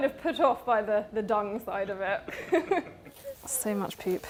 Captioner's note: laughs